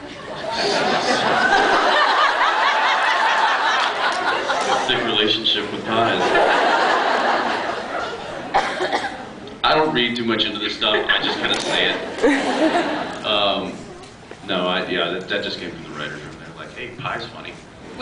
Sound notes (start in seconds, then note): 0.2 laughs; 10.8 scattered laughs